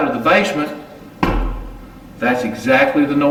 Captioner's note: thump